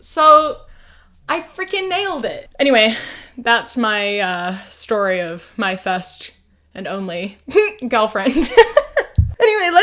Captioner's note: laughs